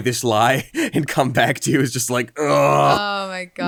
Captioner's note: chuckles; groans